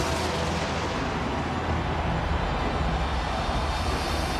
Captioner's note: lightning cracking; crowd cheering